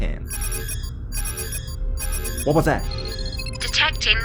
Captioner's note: alarm sound